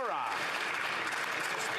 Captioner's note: some Applause